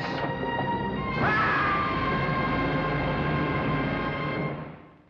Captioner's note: dramatic suspenseful music; screams